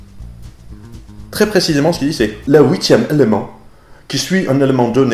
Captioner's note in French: <i>avec l'accent</i>